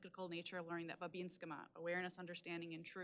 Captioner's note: speaking Native language